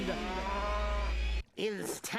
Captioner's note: cow mooing